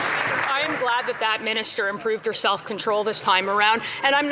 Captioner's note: some Applause